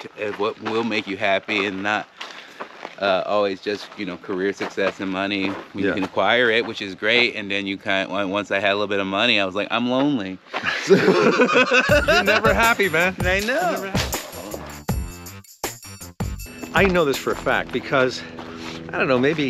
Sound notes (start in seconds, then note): 10.6 both laughing; 14.9 upbeat music